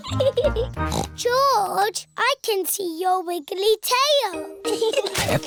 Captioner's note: giggles; snorts